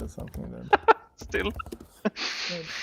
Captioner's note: laughing